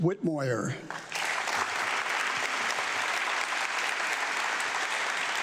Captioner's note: audience clapping